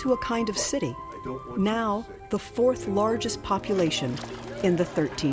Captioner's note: indistinct conversation, footsteps